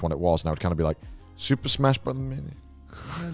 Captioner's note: whispers